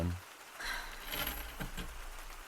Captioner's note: sighs